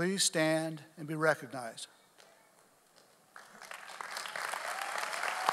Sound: audience applauding

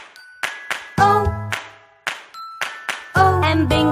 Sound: clap

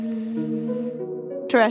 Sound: gently buzzes

